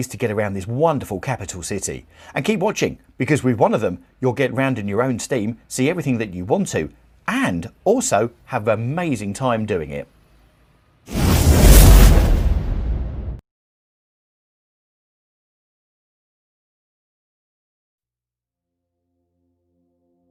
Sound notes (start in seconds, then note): 11.1 wind whooshing